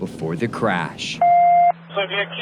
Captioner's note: loud beep